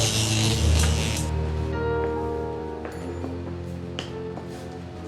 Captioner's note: electricity crackling; eerie music